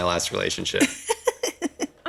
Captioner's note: laughs